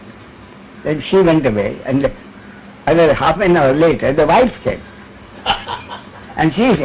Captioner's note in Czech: smích